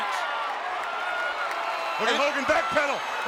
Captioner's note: audience cheering